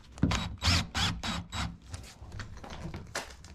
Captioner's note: drill whirring